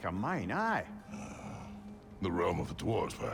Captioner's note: grunt